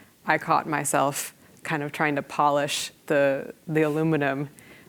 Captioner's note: none